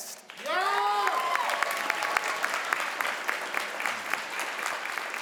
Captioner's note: crowd applauds